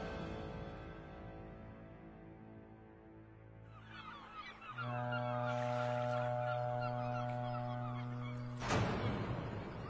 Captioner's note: ship horn and seagulls sound